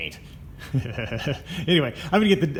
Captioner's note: chuckles